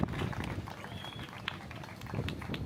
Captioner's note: applause